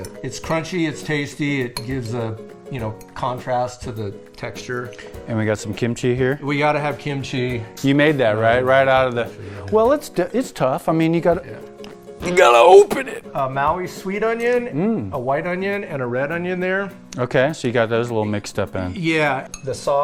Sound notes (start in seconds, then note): 12.4 grunts